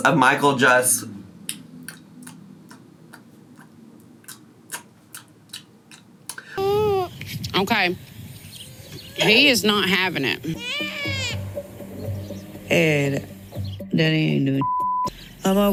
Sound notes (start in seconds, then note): 1.4 chewing; 6.3 baby fussing; 14.5 beeping sound